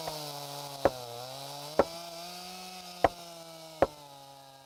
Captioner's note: banging